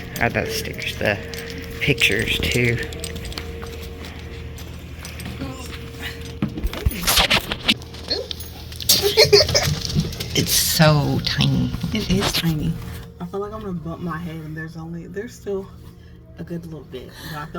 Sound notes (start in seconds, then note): 4.9 grunts; 8.8 giggling